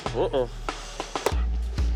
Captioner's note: bubble gum pops